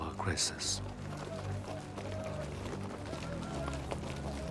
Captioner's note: men Shouting In Distance